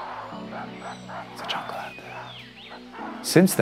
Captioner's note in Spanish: Susurros